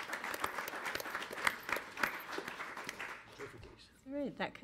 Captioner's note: audience applauding